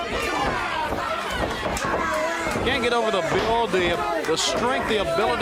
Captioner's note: crowd cheering; crowd chatter